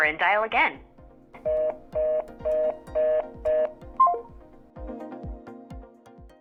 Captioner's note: line disconnect noises